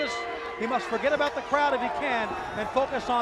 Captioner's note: bell ringing